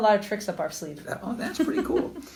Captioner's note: laughs